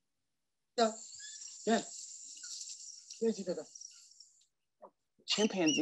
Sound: speaking in foreign language

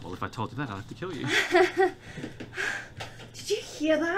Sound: nervous laughter

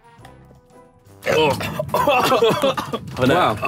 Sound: goofy music; burps and coughs

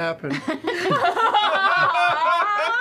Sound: the cast laughs

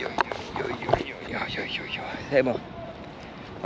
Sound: speaking in foreign language

